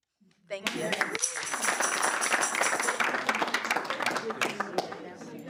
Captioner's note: audience applauding